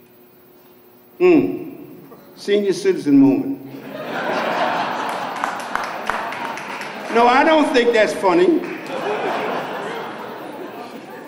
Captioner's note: laughter; applause; laughs